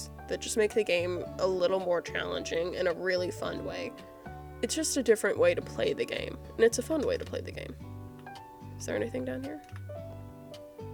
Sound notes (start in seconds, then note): none